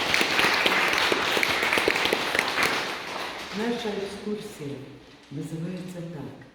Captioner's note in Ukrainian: оплески